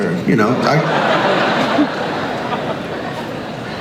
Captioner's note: crowd laughs